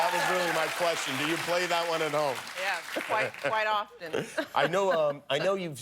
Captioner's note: cheers and applause